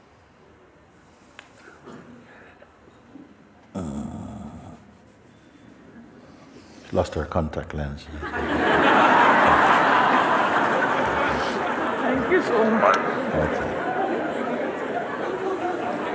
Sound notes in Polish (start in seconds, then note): 10.4 śmiech